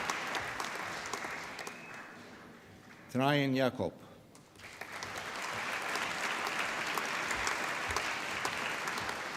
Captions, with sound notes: Traian Iacob. (APPLAUSE)